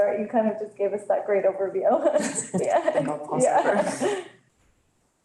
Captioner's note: laughs